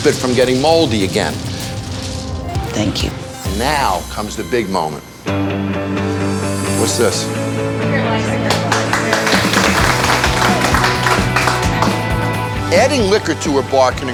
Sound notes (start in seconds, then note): 6.9 upbeat music; 8.4 applause